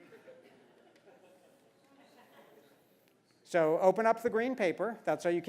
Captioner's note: laugh